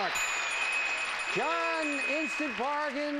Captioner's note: audience applauding; bell dings